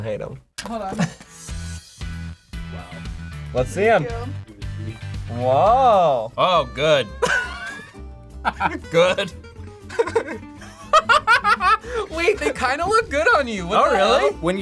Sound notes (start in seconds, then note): 1.4 upbeat music; 7.1 laughs; 9.8 laughs